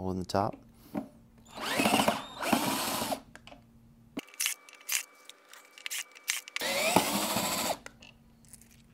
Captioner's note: drilling noise